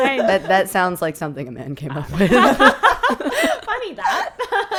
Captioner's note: laughing